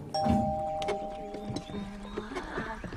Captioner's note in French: Elle fredonne